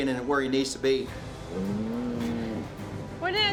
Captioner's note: cows moos